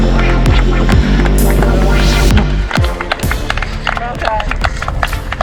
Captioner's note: crowd clapping